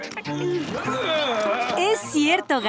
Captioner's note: groaning